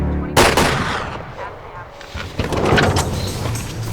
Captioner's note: woman On Radio; gun fires; intense music